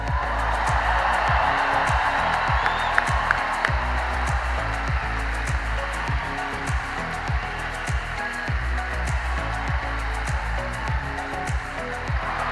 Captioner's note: cheering and applause